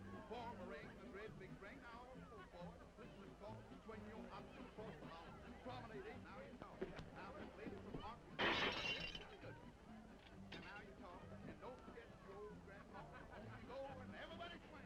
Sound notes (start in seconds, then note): 8.4 glass breaking